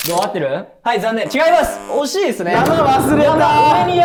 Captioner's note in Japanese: ブッブー